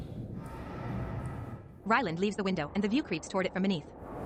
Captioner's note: machinery groans